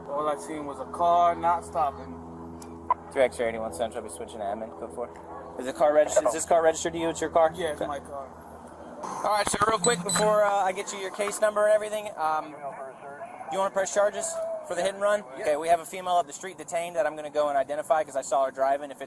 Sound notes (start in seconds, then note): 12.4 radio chatter